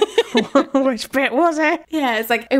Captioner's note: both laughing